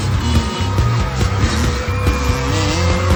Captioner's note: crowd screaming